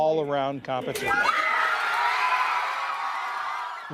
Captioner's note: cheering and applause